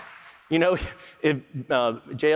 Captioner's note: applause